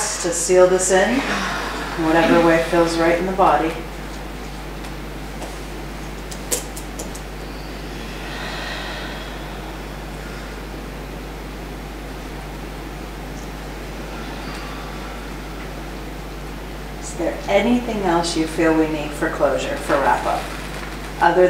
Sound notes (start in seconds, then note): 5.3 breathes deeply